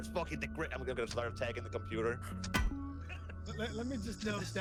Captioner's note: bonk